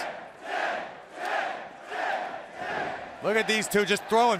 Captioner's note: fans chanting